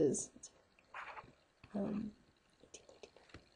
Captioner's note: instructor typing